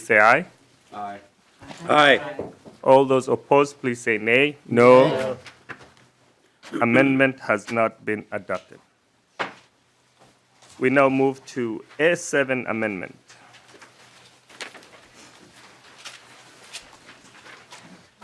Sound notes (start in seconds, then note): 4.8 chorus of ayes